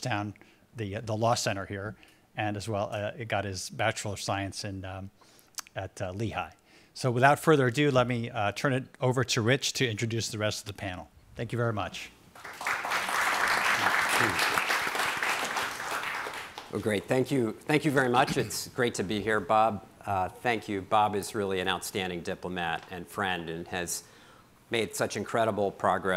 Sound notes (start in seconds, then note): 12.3 audience applauding